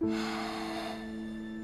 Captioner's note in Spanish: Suspiro